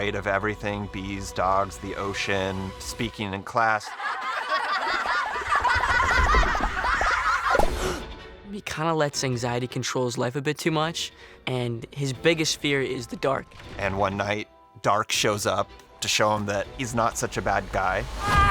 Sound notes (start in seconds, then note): 3.8 kids laughing